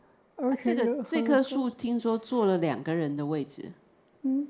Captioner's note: Mandarin